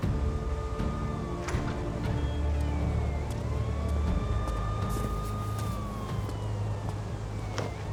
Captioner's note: sirens in the distance